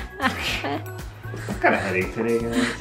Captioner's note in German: kichert